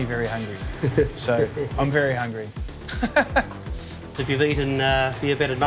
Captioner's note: laughing